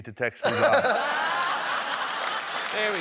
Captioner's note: laughter